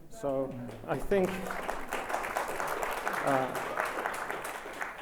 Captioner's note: audience applauds